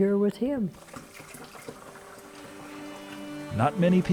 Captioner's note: water splashing